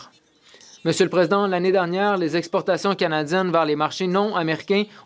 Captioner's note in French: voix de l'interprète